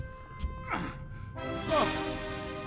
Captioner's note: grunting